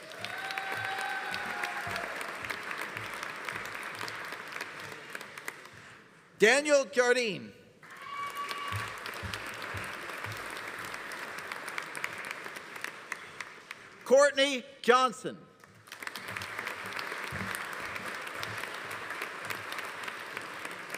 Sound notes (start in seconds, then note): 0.0 audience cheering; 0.0 audience applauding; 7.8 audience cheering; 7.8 audience applauding; 15.6 audience applauding